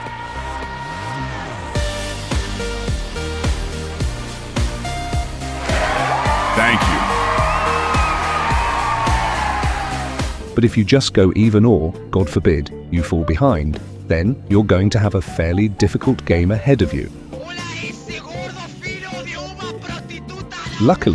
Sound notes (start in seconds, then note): 5.4 crowd cheering; 17.3 cursing in Spanish